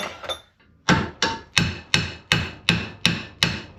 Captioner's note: banging